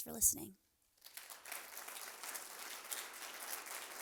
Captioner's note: applause